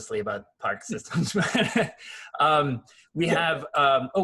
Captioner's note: laughs